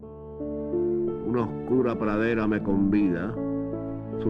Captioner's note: speaking Spanish